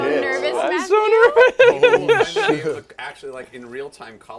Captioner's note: laughs nervously